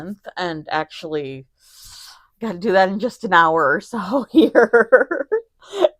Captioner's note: giggles